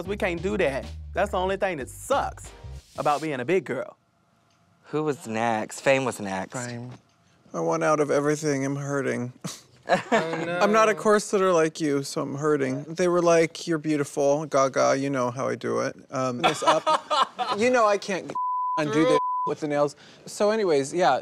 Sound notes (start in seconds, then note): 16.4 laughter